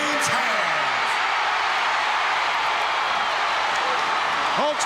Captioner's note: audience cheering